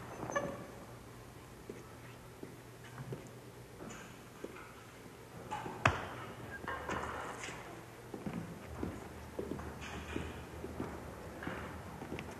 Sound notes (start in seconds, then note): 1.7 footsteps clicking; 5.7 fist thuds